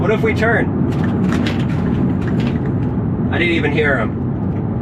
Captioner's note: car rattling